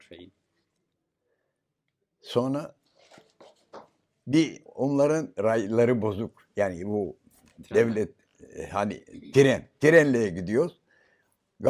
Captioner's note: foreign language